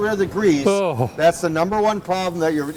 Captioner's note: groans